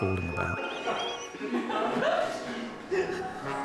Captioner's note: people laughing